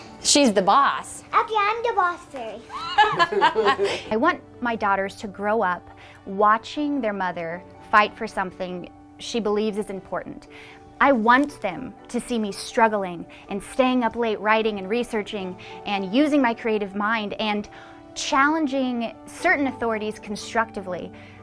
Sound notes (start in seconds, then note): 2.6 laughing